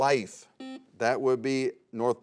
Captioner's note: buzzer sounds